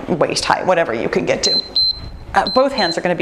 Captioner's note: timer beeps